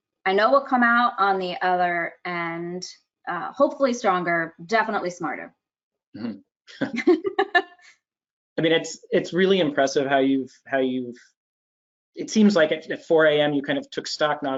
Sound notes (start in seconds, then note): 5.8 laughing